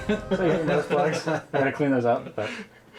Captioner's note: men laughing